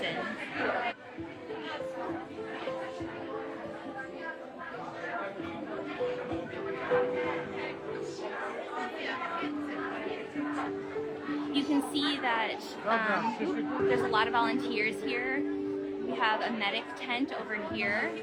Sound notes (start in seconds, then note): 6.1 forlorn music; 6.2 people chatting